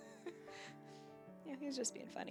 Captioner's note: laughs